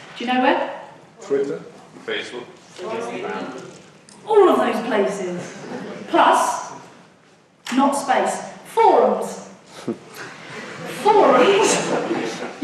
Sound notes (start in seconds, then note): 1.4 voiceover; 2.8 audience muttering; 5.3 audience laughs; 9.7 audience laughs